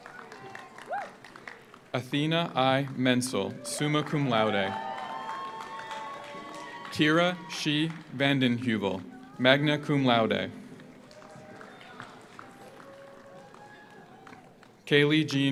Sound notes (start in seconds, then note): 0.0 audience cheers; 0.0 audience applauds; 4.8 audience applauds; 4.8 audience cheers; 10.9 audience applauds; 10.9 audience cheers